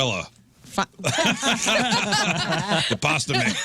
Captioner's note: laughing